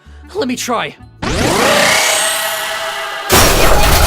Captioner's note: distorted screaming plays in the background